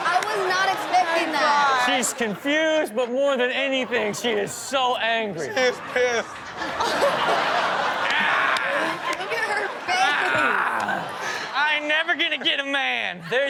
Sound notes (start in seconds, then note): 6.9 Rob mimics grunting